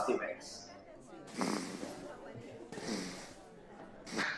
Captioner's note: snoring